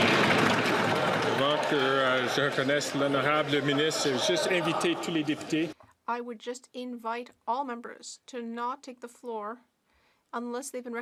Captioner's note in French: applaudissements